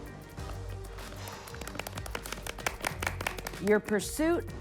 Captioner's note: everyone applauding